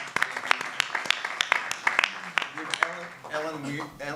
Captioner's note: clapping